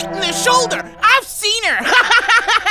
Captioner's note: laughs